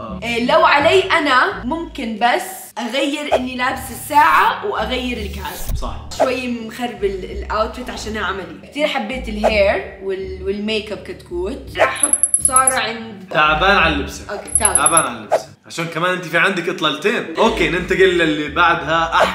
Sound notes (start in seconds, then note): none